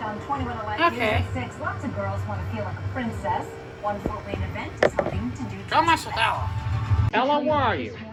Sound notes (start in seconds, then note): 0.7 sarcastically; 5.9 normal voice